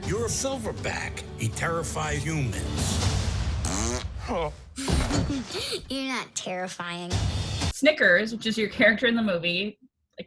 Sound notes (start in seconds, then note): 4.4 man gasps; 5.6 laughs